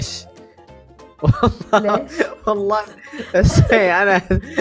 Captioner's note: laughs